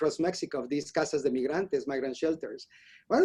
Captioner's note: spanish